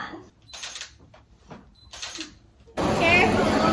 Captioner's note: camera shutters